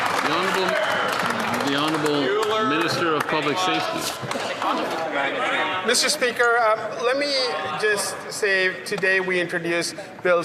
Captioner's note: some Applause